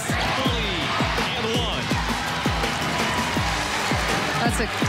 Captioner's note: crowd cheering